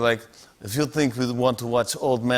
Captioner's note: Slavic accent